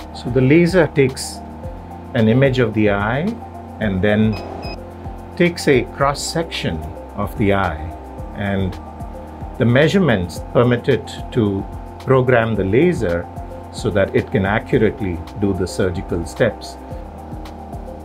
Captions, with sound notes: So laser takes an image of the eye - and then takes a cross-section - [computer beeps] of the eye and the measurements permit it to program the laser so that it can accurately do the surgical steps.